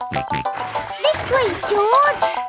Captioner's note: george snorts